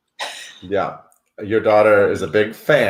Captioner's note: laughs